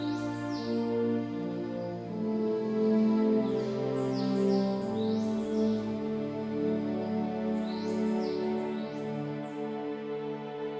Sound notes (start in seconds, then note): 0.2 bright orchestral music; 6.2 birds chirping